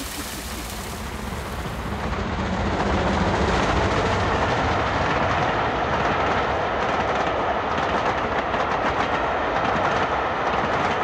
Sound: steam train passing at speed in the distance

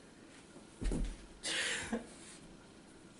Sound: sobbing

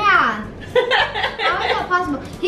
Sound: laughs

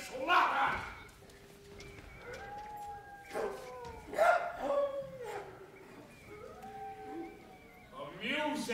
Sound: animals cry

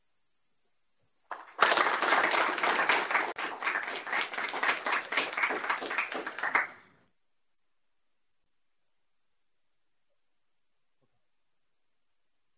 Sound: applause

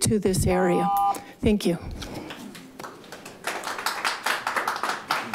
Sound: audience applauding

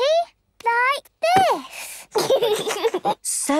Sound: giggles

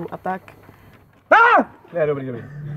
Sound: shouting

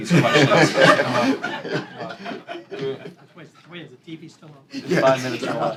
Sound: laughter

